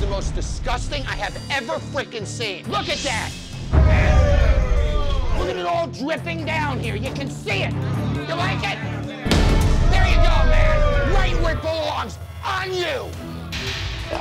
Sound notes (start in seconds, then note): 3.8 all groan